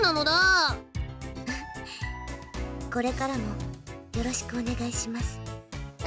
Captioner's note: chuckle